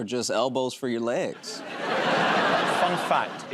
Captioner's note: laughter